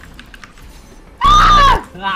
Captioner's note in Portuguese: gritando